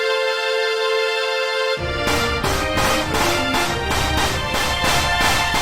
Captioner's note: The Castle Of Wonders & Hope is restored as fireworks go off around it